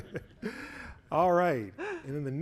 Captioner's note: chuckling